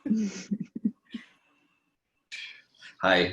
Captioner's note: laughing